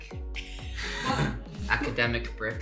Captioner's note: laughs